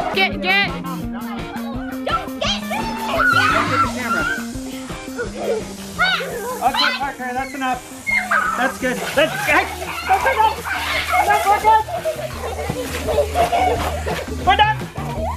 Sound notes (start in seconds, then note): 2.6 screeching; 5.6 screaming and chattering; 10.4 splashing